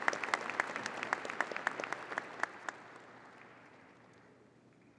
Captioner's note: audience applauding